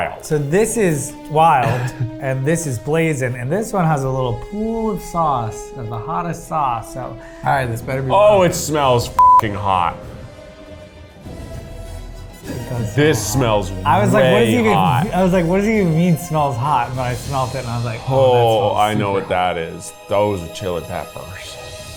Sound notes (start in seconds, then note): 9.2 beep; 10.3 orchestra music continues